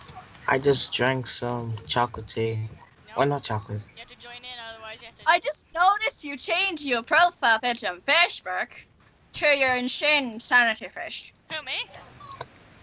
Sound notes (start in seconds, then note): 6.4 mocking voice